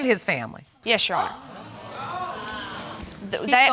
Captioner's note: audience exclaims